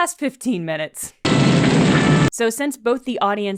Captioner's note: fire roaring